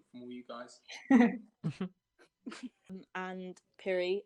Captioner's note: laughter